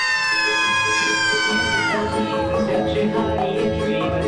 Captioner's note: shouting